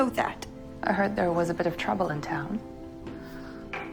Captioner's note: voiceover